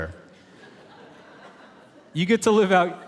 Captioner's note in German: Publikum lacht